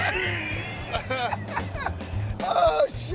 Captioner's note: laughing